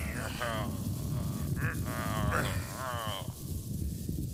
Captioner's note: crashing and hellish screams; Nord Pole groaning